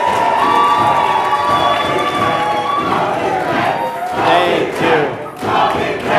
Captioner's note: stomping of feet and chanting of "Go "